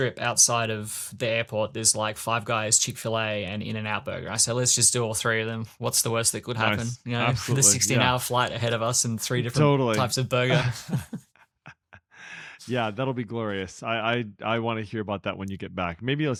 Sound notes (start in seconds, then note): 10.4 laughs